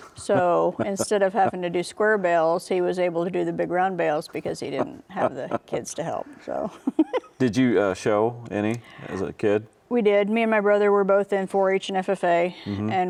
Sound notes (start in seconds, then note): 7.0 laughs